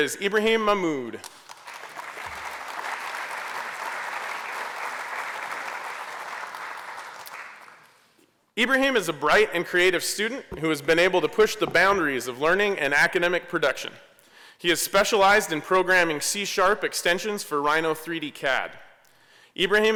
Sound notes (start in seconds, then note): 1.2 applause